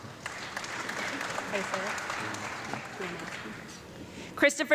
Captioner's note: audience clapping